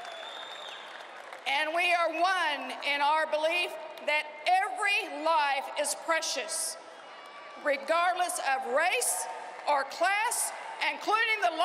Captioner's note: cheering and applause